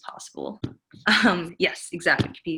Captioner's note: giggles